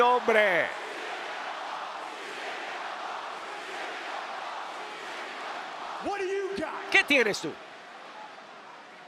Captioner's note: applause